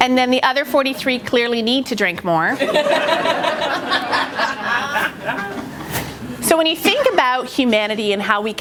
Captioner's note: laughter